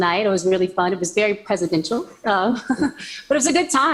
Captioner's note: laughs